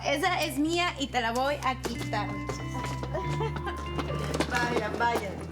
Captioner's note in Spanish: Risas